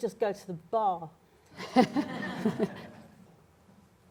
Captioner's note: laughter